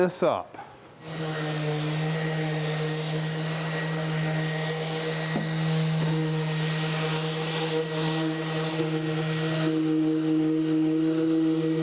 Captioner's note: sanding